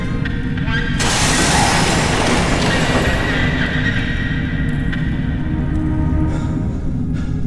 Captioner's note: glass shatters; car thumps; Miles pants; dark music continues